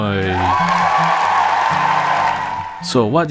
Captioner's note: cheers